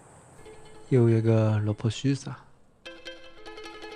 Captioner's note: northeastern dialect